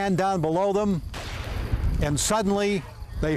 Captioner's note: gun firing